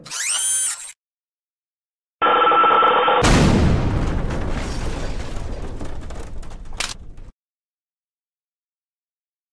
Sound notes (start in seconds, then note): 0.0 whirring; 3.2 Mangle's radio static, explosion; 6.8 click